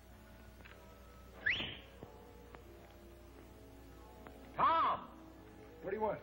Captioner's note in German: Pfeift